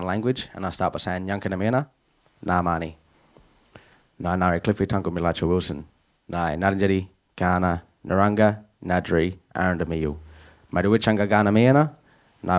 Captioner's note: speaking in first nations language